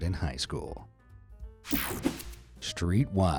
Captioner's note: screen whooshing